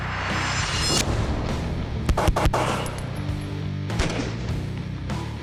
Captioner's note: gunshots